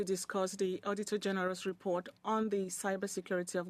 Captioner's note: speaking in French